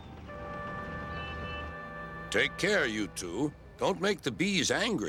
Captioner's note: Boco beeps